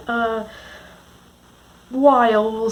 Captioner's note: silence